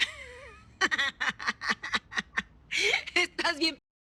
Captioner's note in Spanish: Risas